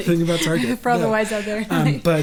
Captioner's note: laughs